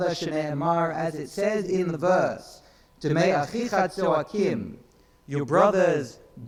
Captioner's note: speaks in foreign language